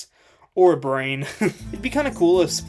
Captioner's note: laughing